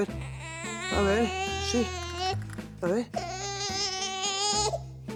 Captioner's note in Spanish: Llanto del bebé